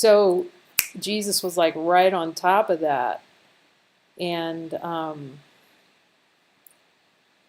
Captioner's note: snaps fingers